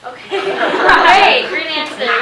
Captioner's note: laughing